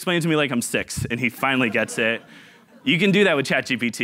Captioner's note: audience laughing